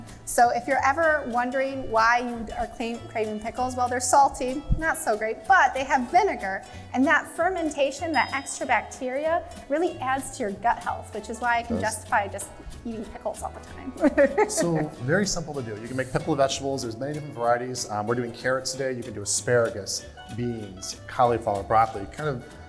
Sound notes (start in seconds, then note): 14.0 laughter